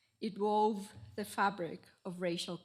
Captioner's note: none